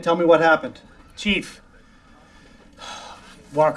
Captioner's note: sighs